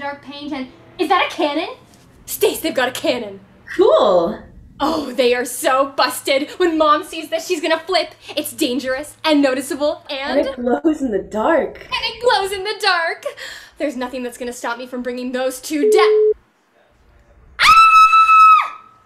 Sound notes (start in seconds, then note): 15.8 phone ringing; 17.6 screams